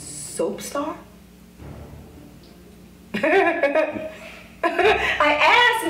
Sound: wicked laugh

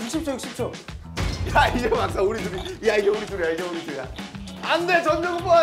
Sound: collision

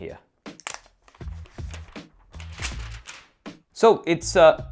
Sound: plastic crinkling

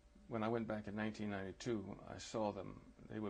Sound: none

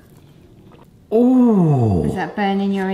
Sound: gasps

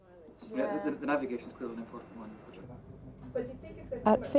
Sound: background conversations

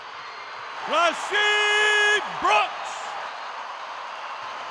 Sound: cheers

